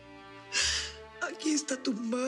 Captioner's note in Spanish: sollozos